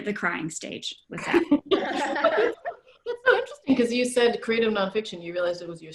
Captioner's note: laughter